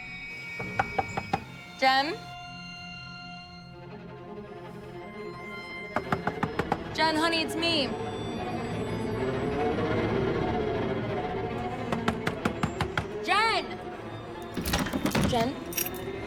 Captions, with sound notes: (knocking) - Jen? (tense instrumental music) (knocking) Jen, honey, it’s me. (tense instrumental music) (knocking) Jen! Jen?